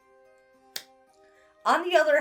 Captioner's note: claps hands